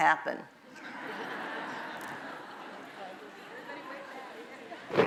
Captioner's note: audience laughs